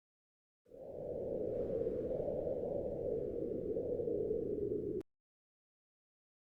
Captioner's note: wind blowing